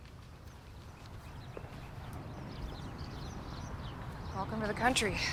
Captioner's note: birds chirp